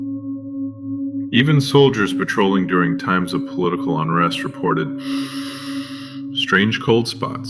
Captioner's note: breath